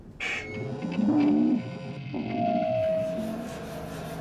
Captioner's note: feedback